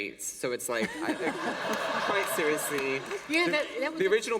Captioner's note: laughter